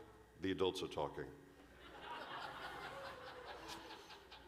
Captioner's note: laughter